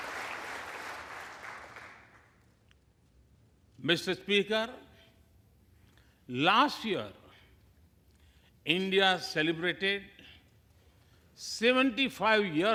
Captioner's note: applause